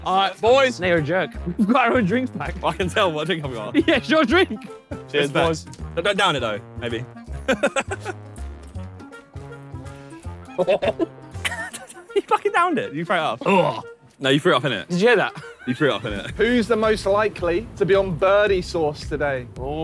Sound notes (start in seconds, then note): 7.4 laughs; 13.4 groans